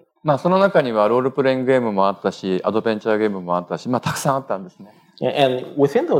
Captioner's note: speaking japanese